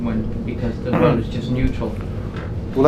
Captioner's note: clears throat